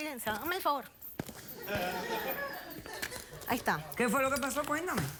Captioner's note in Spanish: risas